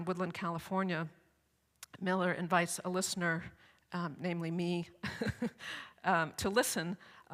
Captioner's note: laughs